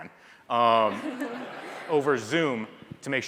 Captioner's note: audience laughs